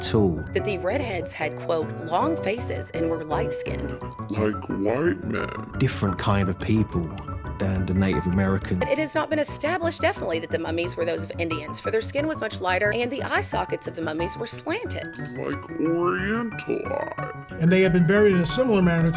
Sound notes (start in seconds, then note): 4.1 deepened voice; 15.2 deepened voice